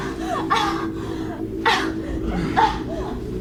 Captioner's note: Ashley grunting